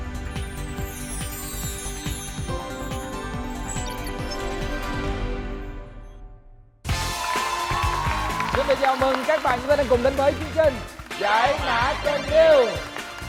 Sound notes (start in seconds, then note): 6.9 applause